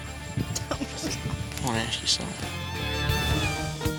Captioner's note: cries